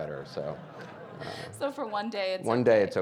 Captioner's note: audience laughing